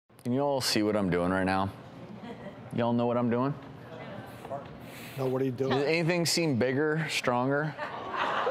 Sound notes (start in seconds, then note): 2.2 laughter; 3.8 chatter; 7.6 laughter